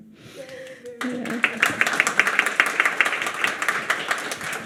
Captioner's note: audience applauds